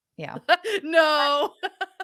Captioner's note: laughing